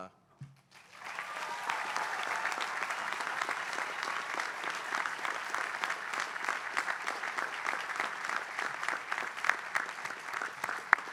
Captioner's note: applause